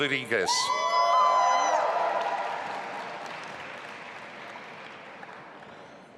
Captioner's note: audience applauding and cheering